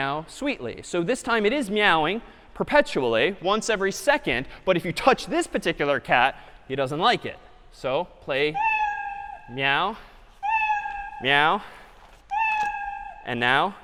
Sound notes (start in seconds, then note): 7.9 meow; 10.5 meow; 12.3 meow